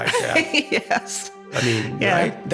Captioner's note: laughing